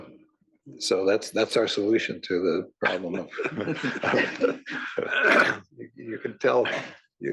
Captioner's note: laugh